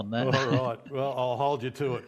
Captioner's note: chuckles